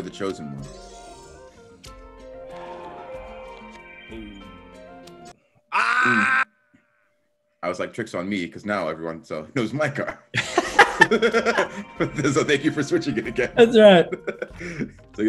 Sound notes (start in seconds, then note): 10.3 laugh